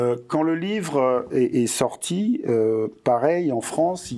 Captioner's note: non-english speech